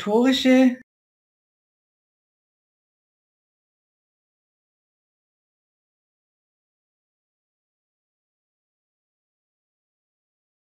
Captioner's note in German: Audio unterbrochen